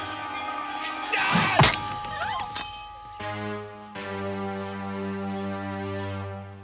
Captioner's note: ladies screaming; man yelling